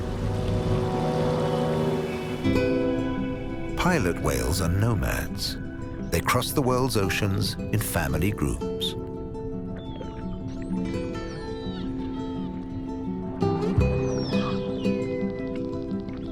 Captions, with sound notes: Pilot whales are nomads. They cross the world's oceans in family groups. (whales screeching) (light music continues)